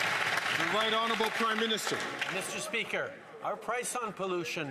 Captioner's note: some Applause